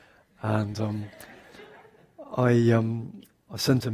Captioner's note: audience laughs